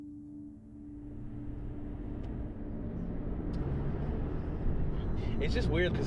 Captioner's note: soft piano music playing; car engine humming